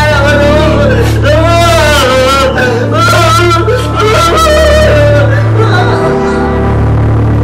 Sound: wailing; continues wailing

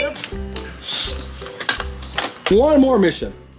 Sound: clips closing

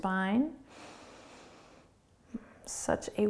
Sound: breathing

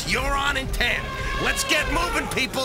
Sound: elephant Horning

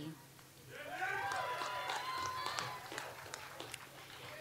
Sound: audience applauds

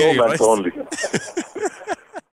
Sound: continues to laugh

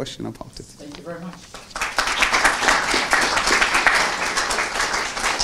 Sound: applause

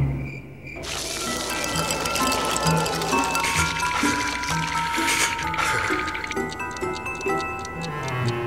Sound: shivering

